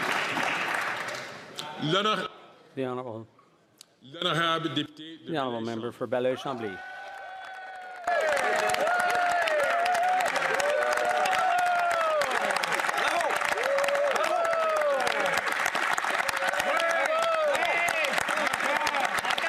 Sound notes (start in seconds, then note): 5.8 some Applause; 7.5 speaking French; 18.3 some Applause